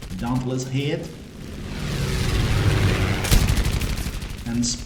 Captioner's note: aircraft Engines ,Gunfire, Flying Sounds